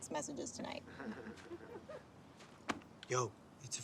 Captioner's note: laughter